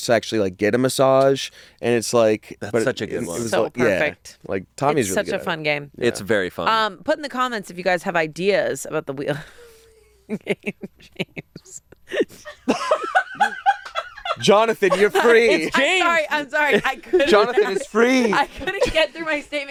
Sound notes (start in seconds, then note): 10.6 laughs; 12.0 laughing